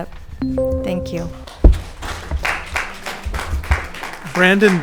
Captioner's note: audience clapping